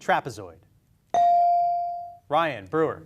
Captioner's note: beep